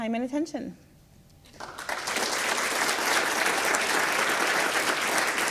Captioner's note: audience applauds